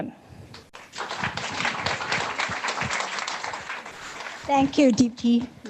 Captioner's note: audience applauding